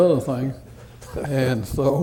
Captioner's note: laughter